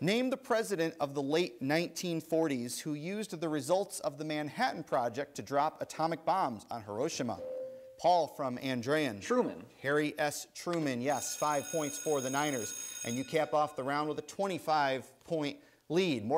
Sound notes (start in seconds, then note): 7.3 ding; 11.2 bell rings